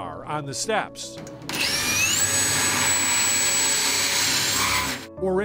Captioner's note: drill whirring